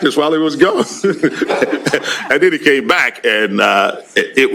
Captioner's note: laughs